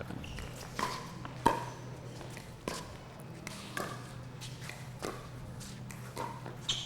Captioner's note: ball being hit; shoes squeaking